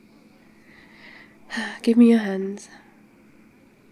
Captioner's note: sighs